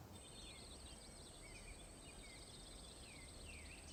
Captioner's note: birds tweet